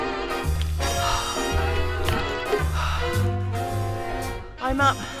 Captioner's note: gasps